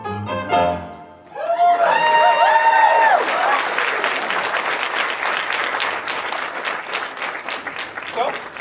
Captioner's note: applause